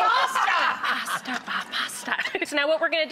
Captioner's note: man laughs